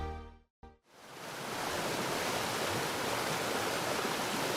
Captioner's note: water falling